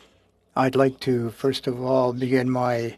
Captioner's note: speaking French